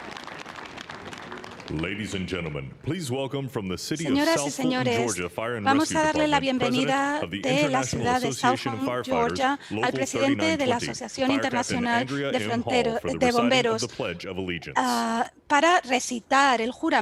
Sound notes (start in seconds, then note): 0.0 applause; 0.0 cheering